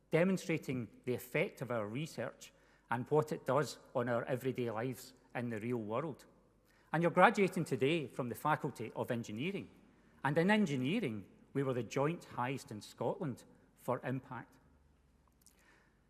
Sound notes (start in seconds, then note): none